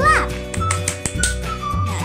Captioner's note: claps